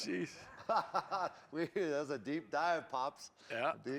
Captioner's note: laughs